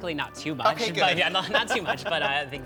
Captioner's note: chuckles